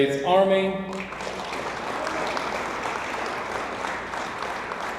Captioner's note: audience applauds